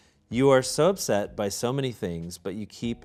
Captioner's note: none